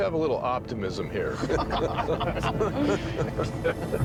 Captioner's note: all laugh